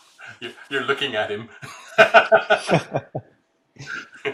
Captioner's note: laughs